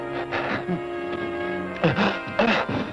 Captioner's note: gasping, moaning